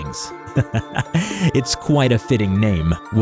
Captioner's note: chuckles